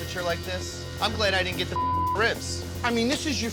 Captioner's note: beep